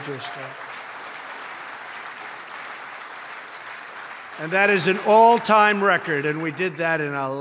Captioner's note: applause